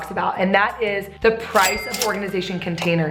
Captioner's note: cash register chimes